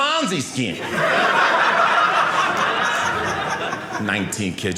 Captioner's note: audience laughing